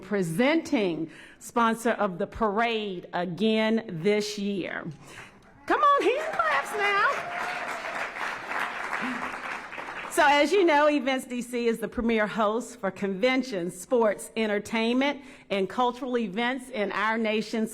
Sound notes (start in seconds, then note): 7.4 applause